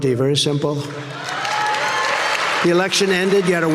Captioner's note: audience cheering